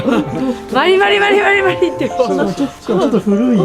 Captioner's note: laughter; laughter